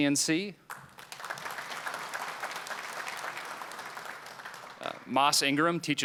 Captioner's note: applause